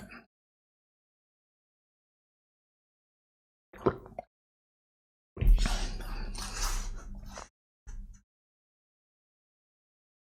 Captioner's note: silence